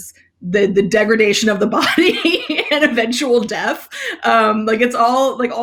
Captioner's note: laughs